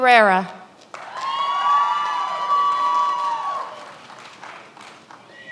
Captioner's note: many applauding